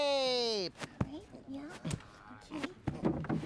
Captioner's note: grunting